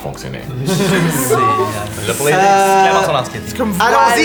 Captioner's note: emotional giggles